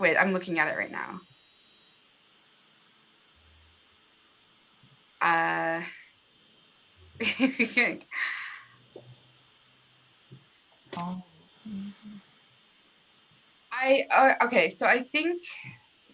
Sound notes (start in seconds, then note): 7.2 laughter